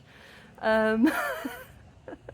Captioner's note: laughing